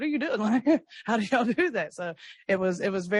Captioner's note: laughs